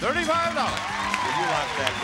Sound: audience cheers

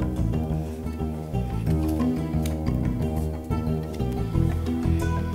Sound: papers shuffling, calm breathing; percussive string music continues

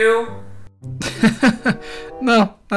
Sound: laugh

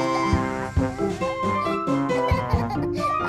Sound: giggling

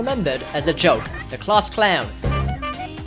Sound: honk

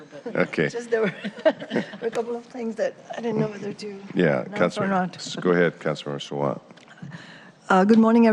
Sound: laughter

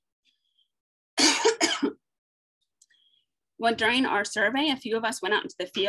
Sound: coughing

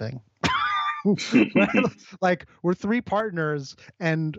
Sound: both laugh

